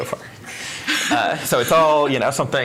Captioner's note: laughing